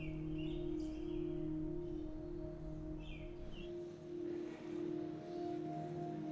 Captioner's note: birds chirping; soft music